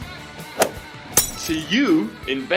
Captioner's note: whoosh!; glass Shatters